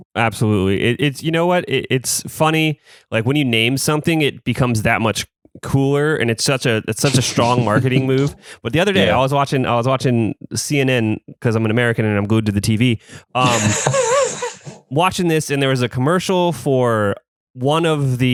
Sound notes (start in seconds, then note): 13.3 laughs